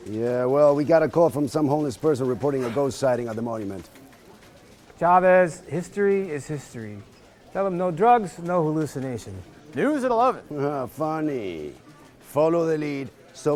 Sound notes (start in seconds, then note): 10.8 laughing